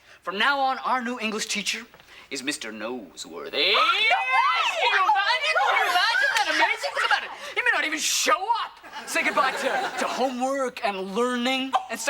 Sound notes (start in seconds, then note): 3.6 group exclaiming